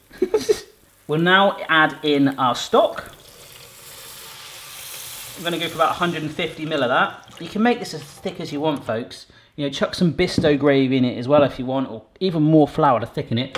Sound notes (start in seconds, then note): 0.2 laughs; 3.2 stock simmering